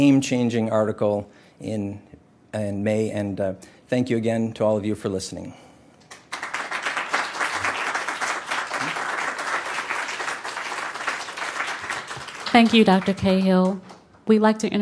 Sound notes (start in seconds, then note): 6.0 applause